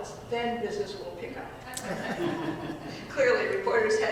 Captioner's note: audience laughing